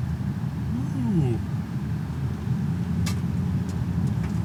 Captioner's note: oohs